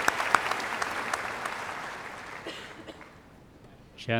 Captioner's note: applause